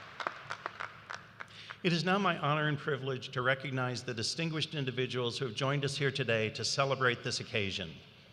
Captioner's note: cheers and applause